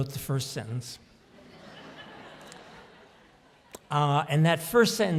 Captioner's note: audience laughs